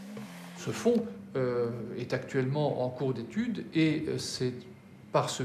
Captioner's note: speaking in a foreign language